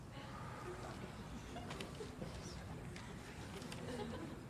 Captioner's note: scattered laughter